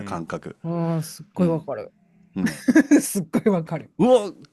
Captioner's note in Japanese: 笑い